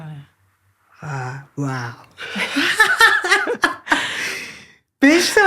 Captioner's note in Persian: خنده